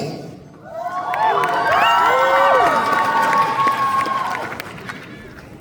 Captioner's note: applause